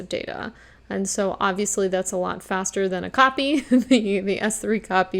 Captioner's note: chuckles